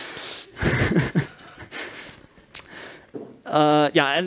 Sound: laughter in the audience

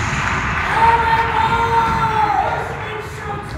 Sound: applause; shouting

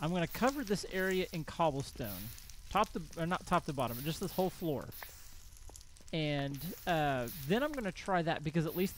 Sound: crackling continues

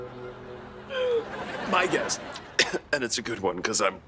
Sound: groaning

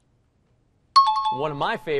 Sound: bell rings

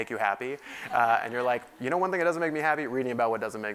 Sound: laugh

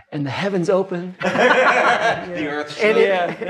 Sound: laughing

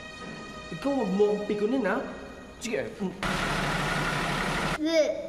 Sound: vehicle approaching

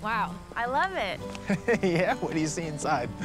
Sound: laughs

